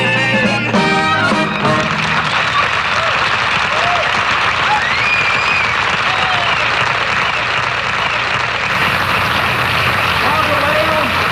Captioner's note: cheers and applause